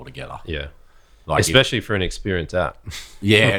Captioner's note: laughs